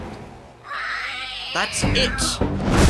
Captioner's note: roar